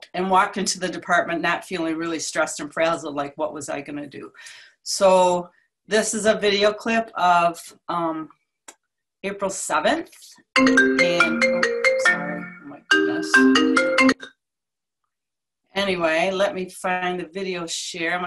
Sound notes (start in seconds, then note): 10.7 phone rings